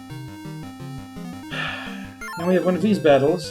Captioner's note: sighs